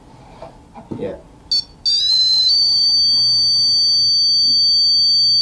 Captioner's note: REM pod beeping